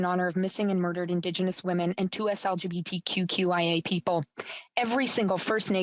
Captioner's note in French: voix de l'interprète